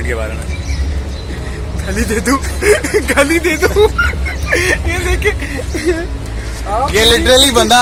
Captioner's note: laughing